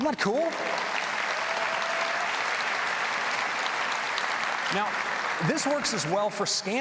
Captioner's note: applause